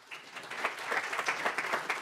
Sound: applause

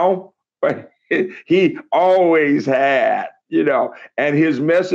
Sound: laughs

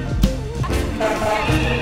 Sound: fire alarm blaring; firetruck

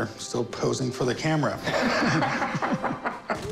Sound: laughter

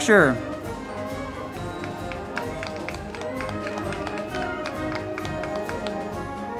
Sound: band music; crowd clapping

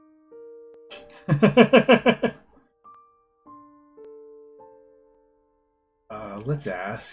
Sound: laughs

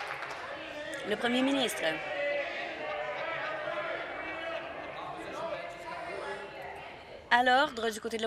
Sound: some Applause

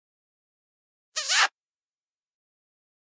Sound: sound of kiss

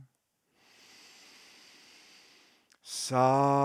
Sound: inhales deeply

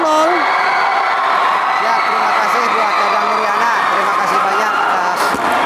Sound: applause

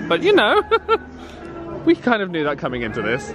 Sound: laughs; chuckles

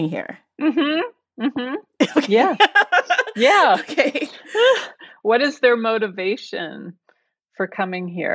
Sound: laughs

